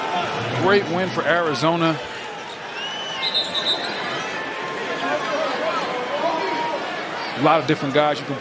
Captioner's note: whistle